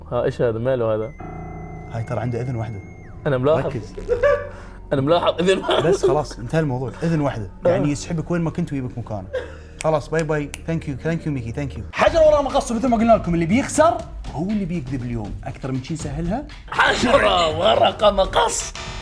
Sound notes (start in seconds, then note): 5.1 laughs; 5.3 laughter